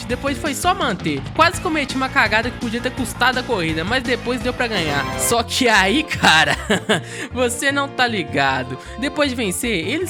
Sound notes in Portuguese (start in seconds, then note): 6.1 risada